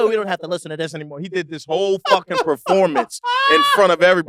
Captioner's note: laugh